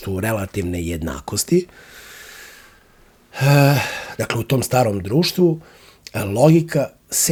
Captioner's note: sigh